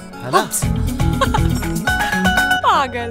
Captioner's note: Gauravi laughs